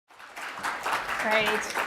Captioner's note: applause